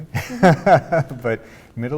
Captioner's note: laughs